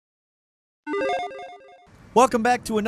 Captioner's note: electronic beep